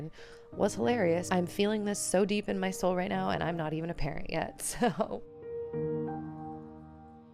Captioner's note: laughter